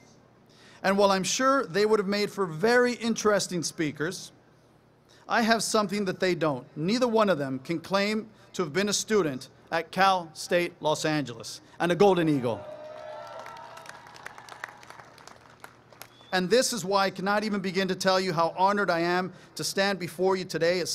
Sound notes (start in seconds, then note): 12.5 applause, cheering